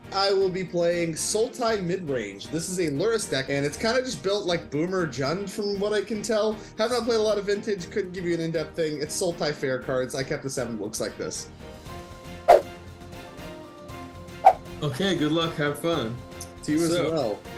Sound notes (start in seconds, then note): 14.4 whooshing